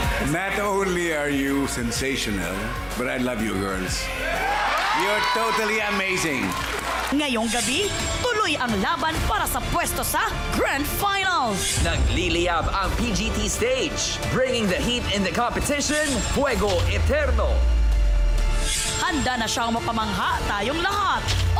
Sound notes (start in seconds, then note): 4.1 audience cheering